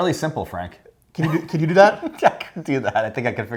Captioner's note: laughs